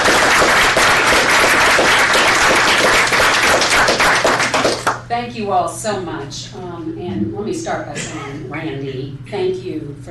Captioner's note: applause